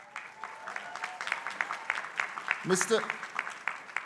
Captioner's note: crowd applauding